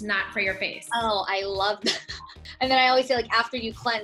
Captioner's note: laughs